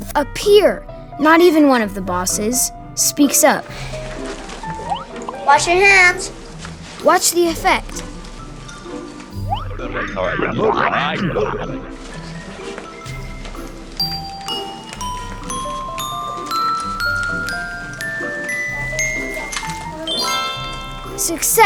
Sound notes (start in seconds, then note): 8.9 kooky music; 14.0 ding sounds; 20.5 flourish sound